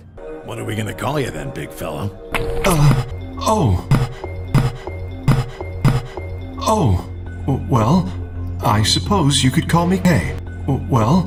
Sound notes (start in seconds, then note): 3.9 K makes noises like he's hesitating to speak